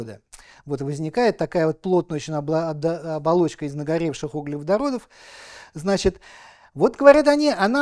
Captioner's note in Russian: тяжело вздыхает